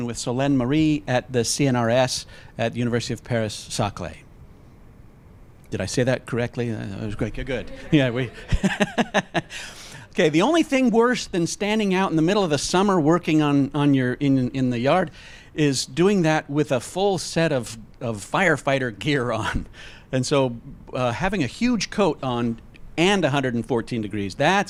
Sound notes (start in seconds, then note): 7.6 laughs